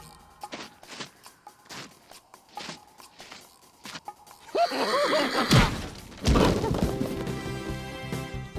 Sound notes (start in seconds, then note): 4.5 laughs